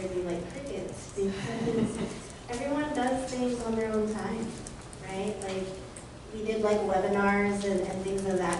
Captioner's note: laughter